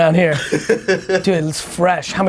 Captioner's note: laughing